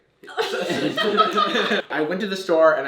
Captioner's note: laughs